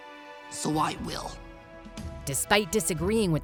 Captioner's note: none